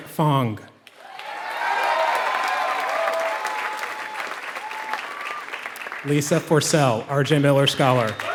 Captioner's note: applause